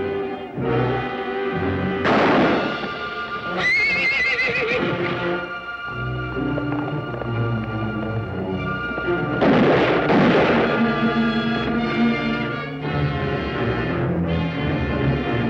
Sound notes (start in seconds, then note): 3.4 horse whinnies; 3.8 gunshot